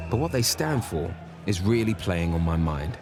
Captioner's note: none